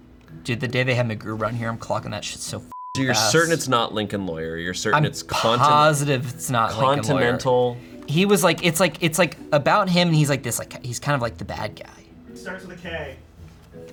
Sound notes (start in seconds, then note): 2.7 beep